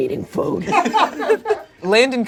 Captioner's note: audience laughing